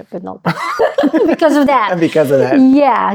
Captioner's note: laughing